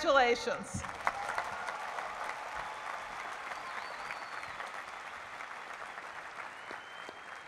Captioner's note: applause